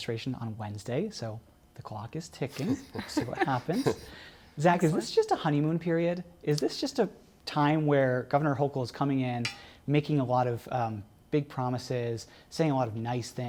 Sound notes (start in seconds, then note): 2.5 laughter